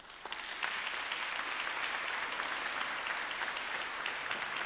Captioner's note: congregation applauding